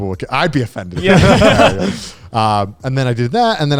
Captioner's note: laughing